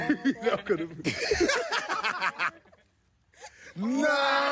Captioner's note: visitors laughing